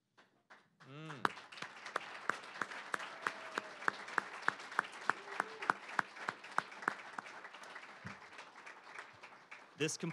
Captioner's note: applause